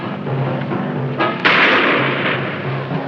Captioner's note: shot firing